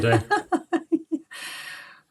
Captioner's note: laughing